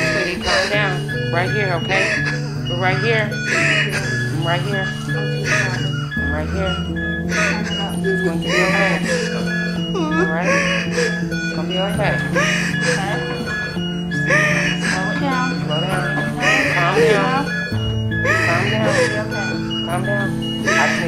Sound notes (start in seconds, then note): 5.4 medical machines beeping